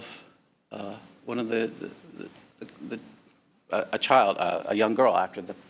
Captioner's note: stammering